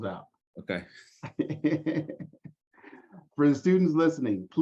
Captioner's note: laughter